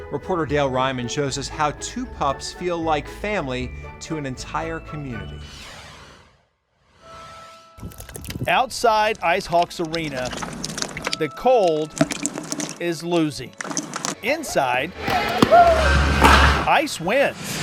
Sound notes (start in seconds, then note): 7.3 gentle music; 7.8 ice crackling